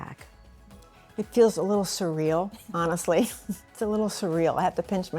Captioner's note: laughs